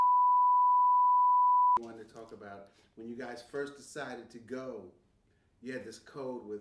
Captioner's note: bars and tones